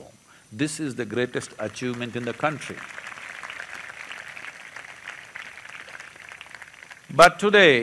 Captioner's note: applause